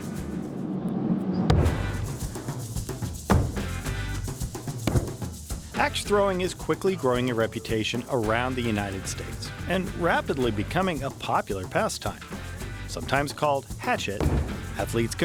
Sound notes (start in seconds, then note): 0.5 upbeat music; 1.5 thud sound; 4.5 upbeat music